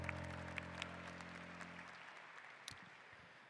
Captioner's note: applause